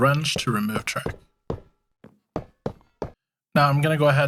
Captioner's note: wrench clanking